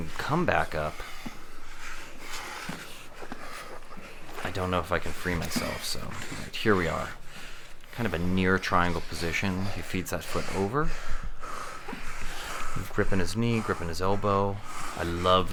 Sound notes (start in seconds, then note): 11.9 heavy breathing